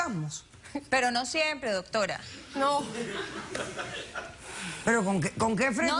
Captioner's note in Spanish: risas